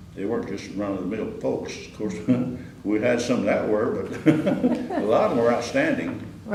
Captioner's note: laughter